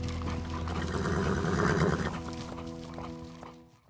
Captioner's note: guitar music; horse neighing